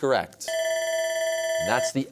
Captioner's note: bell ringing